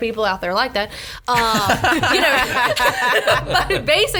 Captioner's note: laughs